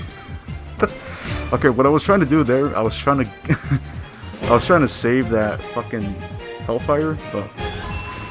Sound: laughs; laughs

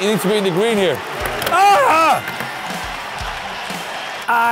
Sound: screams

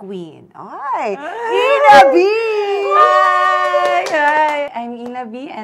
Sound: excited

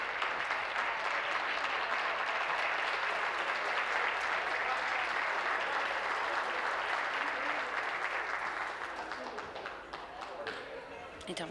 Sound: applause

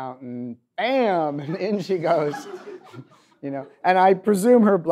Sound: audience laughs

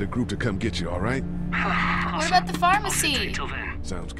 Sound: Glenn sighs in relief

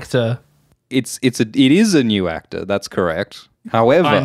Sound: Alt Schwift X voice; Glidus voice; Alt Schwift X voice

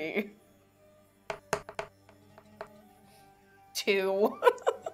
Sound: dice thudding; laughs

